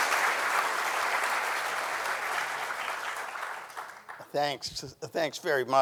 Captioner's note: audience applauding continues